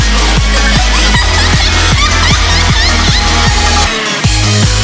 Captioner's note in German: Verrücktes Lachen